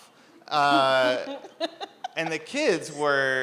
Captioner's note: laughs